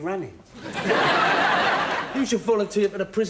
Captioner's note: audience laughing